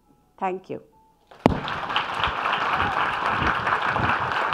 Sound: audience applauding

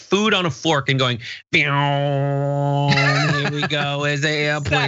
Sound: laugh

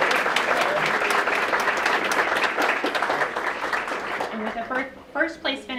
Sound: applause

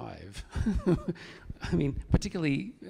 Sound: chuckles

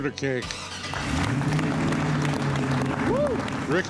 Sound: applause

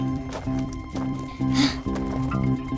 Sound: Sema exhales loudly

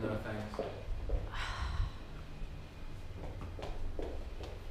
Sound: Ava sighs

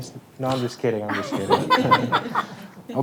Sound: board members laughing

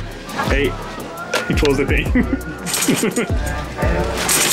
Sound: laughs

